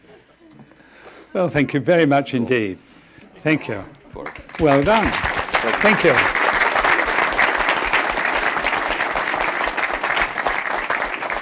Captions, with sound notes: Oh thank you very much indeed. Thank you. (audience clapping) Well done, thank you.